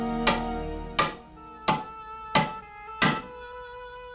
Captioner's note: hammer pounding nail